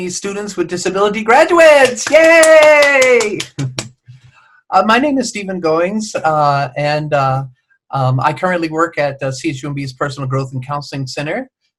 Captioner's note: clapping